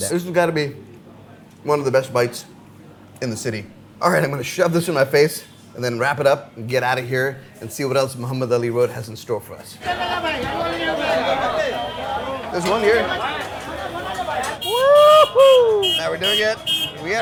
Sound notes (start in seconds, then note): 9.7 crowd chattering